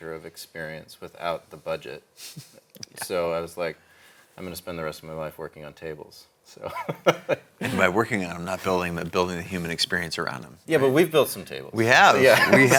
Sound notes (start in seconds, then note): 2.5 laughs; 6.6 laughs